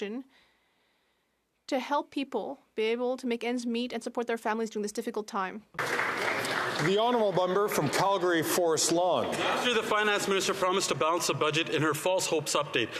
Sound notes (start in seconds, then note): 10.8 some Applause